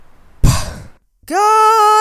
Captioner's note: gasps